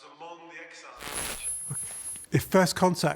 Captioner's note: static crackling